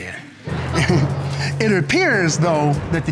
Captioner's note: scattered laughter